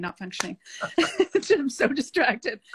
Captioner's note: laughing